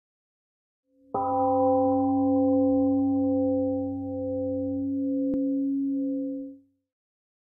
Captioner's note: temple gong rings and fades